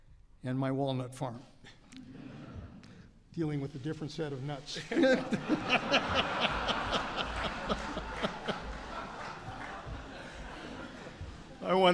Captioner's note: laughter